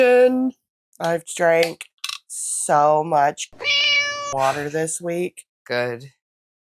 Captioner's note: meow